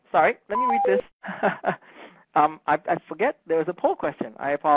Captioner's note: laughs